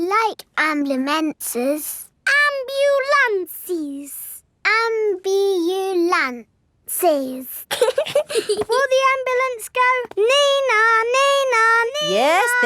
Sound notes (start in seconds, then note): 7.7 both giggling